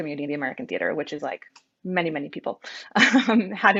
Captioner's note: laughing